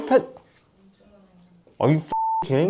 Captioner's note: silence